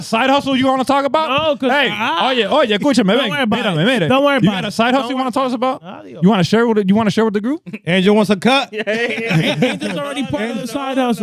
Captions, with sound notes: side hustle you wanna talk about? (Speaking In Foreign Language) You got a side hustle you wanna talk us about? You wanna share with the group? Angel wants a cut? (Laughing) Angel's already part of the side hustle.